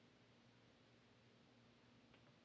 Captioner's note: none